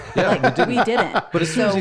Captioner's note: laughs